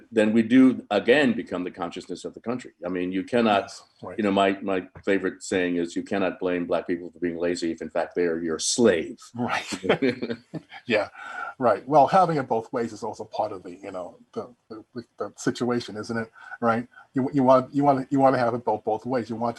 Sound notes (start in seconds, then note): 9.4 both chuckling